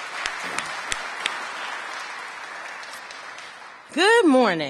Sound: applause

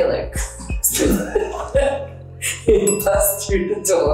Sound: both laughing

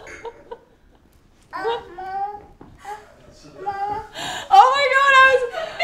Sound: Alex laughing; babbling

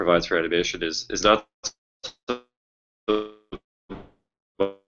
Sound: audio blurps

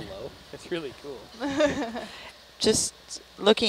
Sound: laughing

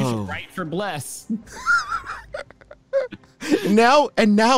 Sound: laughs

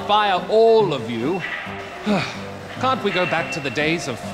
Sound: sighs

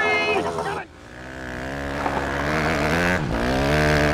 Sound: engine revving

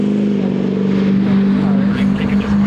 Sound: truck engine revving

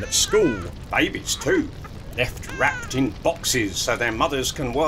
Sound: crying baby

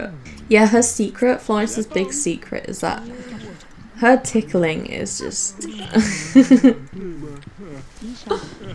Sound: giggles

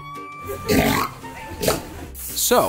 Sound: snort noise

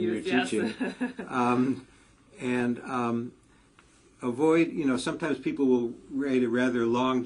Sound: laugh

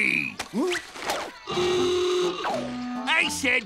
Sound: horn sounding

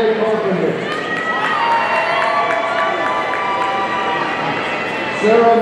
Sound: audience cheering

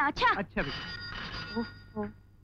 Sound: phone ringing

